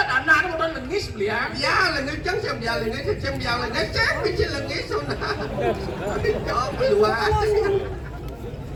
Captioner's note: laughs